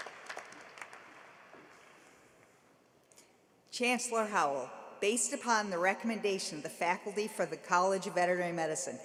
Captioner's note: applause